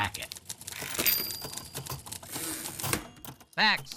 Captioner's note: ding